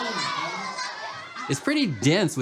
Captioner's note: shouting